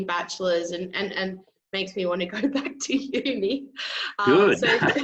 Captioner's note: laughs